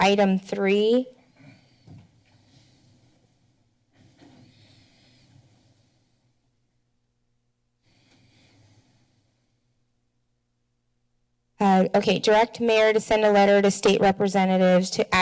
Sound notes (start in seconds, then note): 2.2 silent